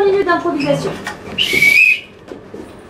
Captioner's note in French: Coup de sifflet